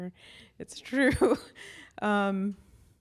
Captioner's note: chuckles